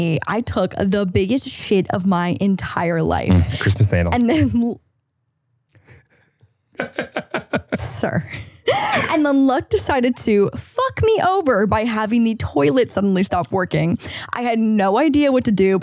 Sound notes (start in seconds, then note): 6.8 laughs